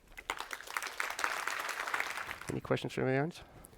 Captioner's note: applause